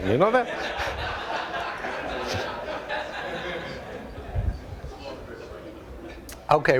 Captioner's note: audience laughter